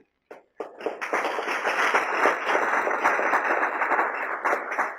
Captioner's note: applause